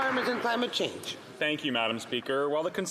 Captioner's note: some Applause